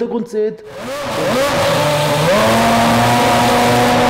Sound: engine noise

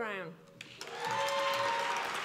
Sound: applause

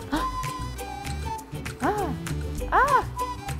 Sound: gasps

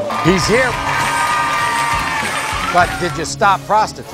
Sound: audience applauding; cheering

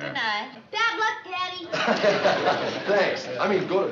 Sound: laughs

